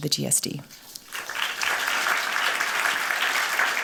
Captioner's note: applause